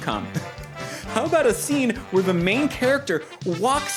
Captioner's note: snaps